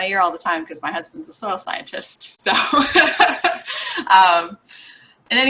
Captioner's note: laughs